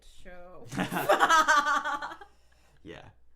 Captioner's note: laughing